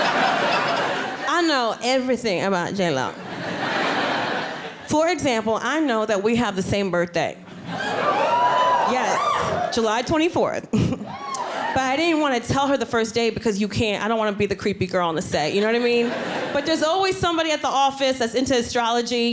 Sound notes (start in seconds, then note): 3.1 audience laughing; 7.7 audience screaming